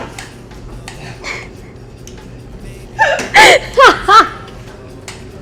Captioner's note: laughs